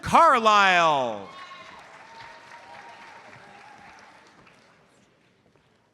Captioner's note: audience applauds